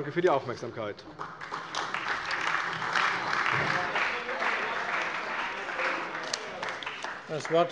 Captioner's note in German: Beifall bei der CDU und dem BÜNDNIS 90/DIE GRÜNEN